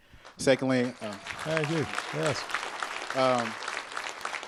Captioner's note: applause